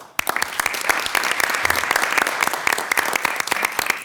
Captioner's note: everyone applauds